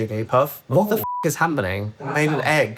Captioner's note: beep